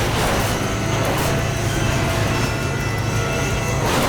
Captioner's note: plane crashes